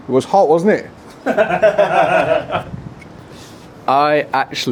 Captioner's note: laughter